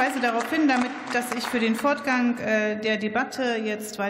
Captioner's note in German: Beifall